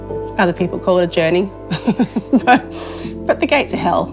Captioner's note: laughing